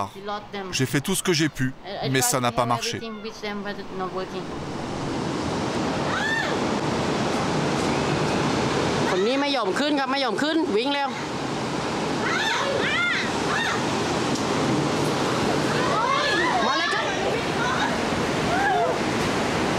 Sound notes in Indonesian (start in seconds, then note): 6.0 suara gelombang tsunami; 6.0 suara teriakan